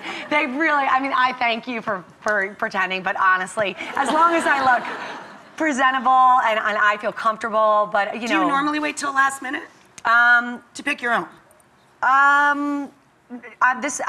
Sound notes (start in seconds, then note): 3.9 crowd laughs